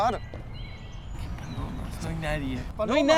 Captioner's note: whisers